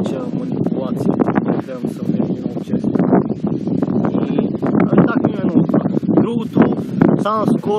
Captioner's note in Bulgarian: чува се вятър